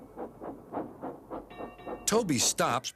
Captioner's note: dings bell